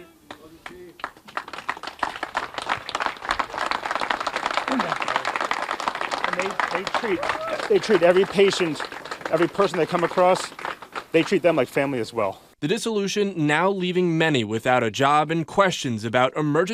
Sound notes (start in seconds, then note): 5.5 applause